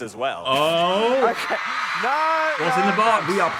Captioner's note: audience cheering